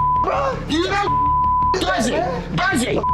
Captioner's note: beep